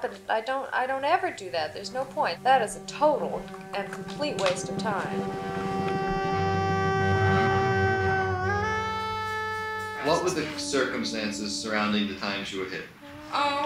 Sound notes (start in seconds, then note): 10.3 voiceover; 13.5 voiceover